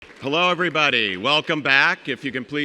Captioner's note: audience clapping